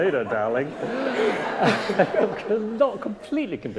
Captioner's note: audience laughing